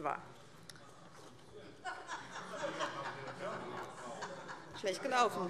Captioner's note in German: Heiterkeit - Zurufe DIE LINKE